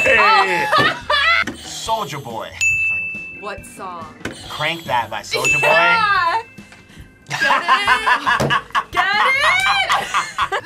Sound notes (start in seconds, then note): 0.1 laughs; 2.6 bell rings; 2.6 buzzer rings; 5.4 buzzer rings; 7.3 laughs